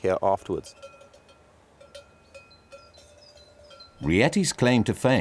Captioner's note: cowbell clanging